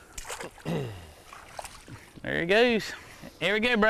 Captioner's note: splashing